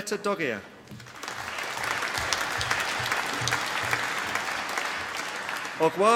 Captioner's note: applause